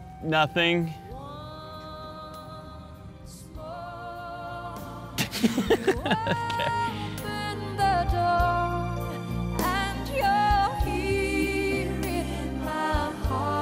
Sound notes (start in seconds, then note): 5.2 laughs